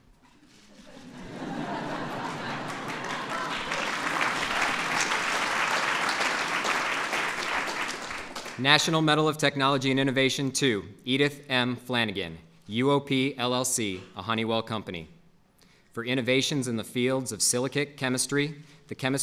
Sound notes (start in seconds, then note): 0.7 laughter; 3.8 applause